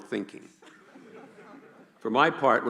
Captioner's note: laughing